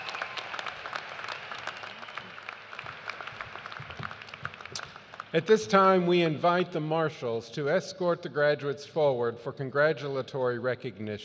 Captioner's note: cheers and applause